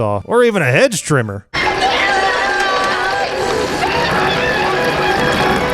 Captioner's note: screaming